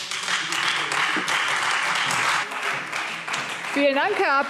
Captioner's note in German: Beifall Freie Demokraten und SPD